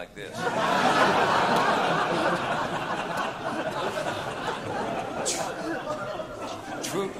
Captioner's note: laughter